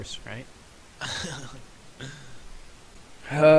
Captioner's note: chuckling